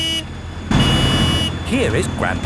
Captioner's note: honking